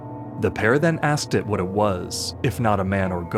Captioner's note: none